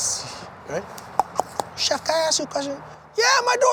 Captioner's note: mimics knocking